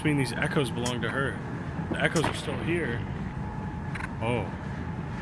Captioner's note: something thuds